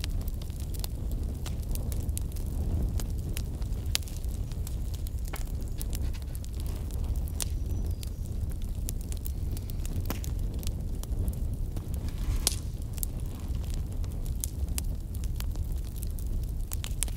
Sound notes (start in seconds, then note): 1.6 sounds of a crackling campfire & pages turning